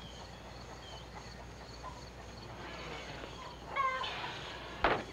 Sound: chickens clucking

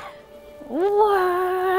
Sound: laughs

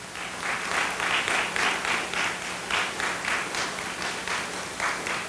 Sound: audience applauding

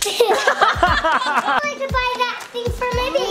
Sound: laughing

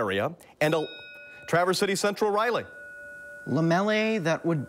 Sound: bell rings

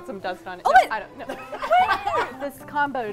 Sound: laughter

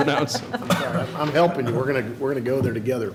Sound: laughter

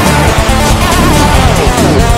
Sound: blast

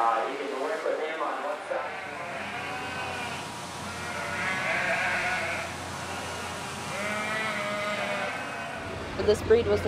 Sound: baaing of sheep and lambs

